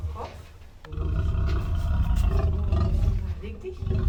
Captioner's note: roar